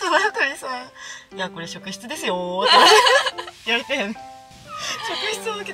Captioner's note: laughter